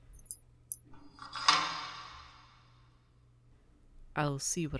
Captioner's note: SFX: Lock clicks